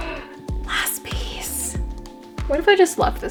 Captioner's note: gasp